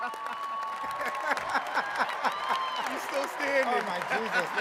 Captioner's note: attendees cheering and clapping; speakers laughing